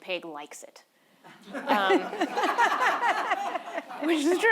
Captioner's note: audience laughing